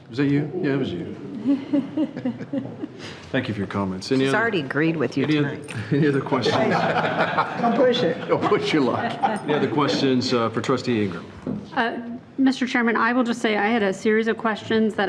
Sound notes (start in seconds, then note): 1.2 people laughing; 6.5 everyone laughing